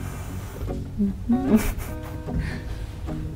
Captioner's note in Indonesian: Tertawa